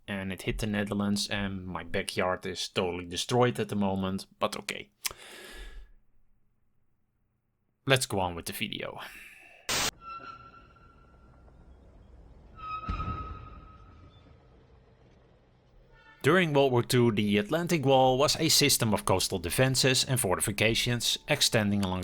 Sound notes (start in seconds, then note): 10.0 tank sound in the background